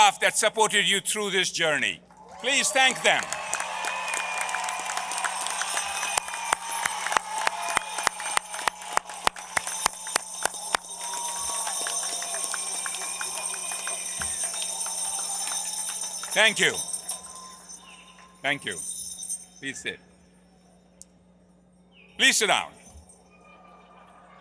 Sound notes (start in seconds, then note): 9.0 applause